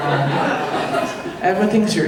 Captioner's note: audience laughing